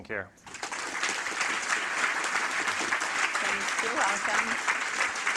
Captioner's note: audience applauding